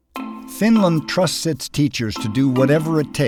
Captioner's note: voiceover